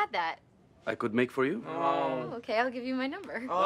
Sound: TROY and ABED groan

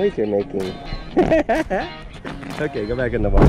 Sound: laughing

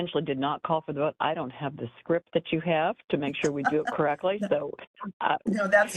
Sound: laughing

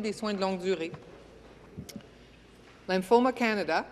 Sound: speaking in French

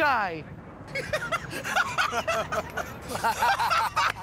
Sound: laughter

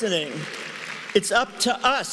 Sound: cheering and applause

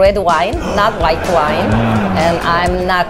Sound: audience laughs

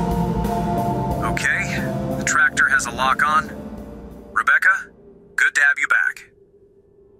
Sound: intercom

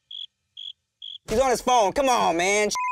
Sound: beep

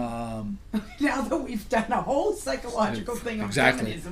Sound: voiceover

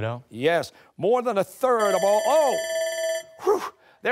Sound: bell dings

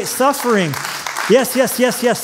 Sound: applause

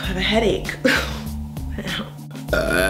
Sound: burp!

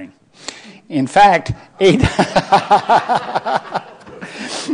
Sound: laughing

